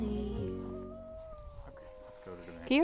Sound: wolves howling

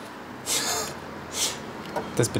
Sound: laughter

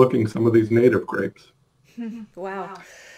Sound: chuckles

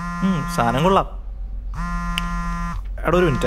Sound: mobile phone vibrating

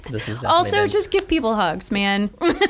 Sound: laughing

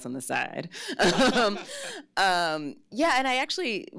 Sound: laughs

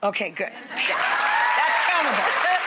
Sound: audience applause

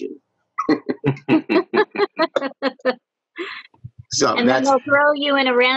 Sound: all laughing

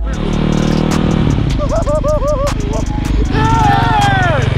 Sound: laughs nervously

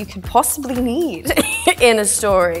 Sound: laughs

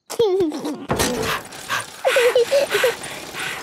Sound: chuckles; daddy pig panting; mummy pig panting; peppa chuckles

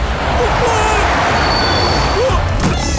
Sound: brakes squeal

